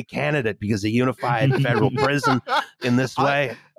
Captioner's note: laughs